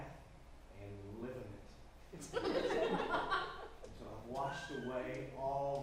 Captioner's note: audience chuckles